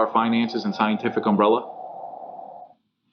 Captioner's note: wind howling